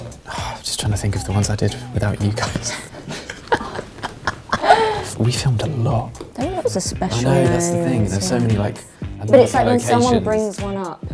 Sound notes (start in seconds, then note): 3.0 all laugh